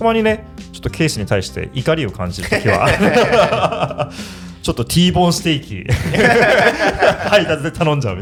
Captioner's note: laughs